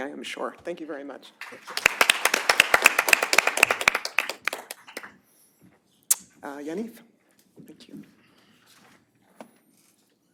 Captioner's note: applause